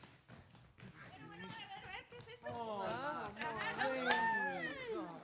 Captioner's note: speaking Spanish